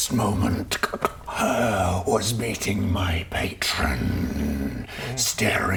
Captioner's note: haargh